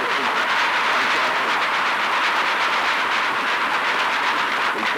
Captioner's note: applause